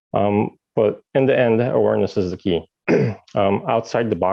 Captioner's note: clears throat